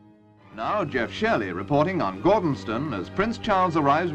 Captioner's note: voiceover